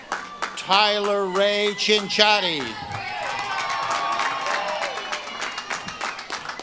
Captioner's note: audience claps and cheers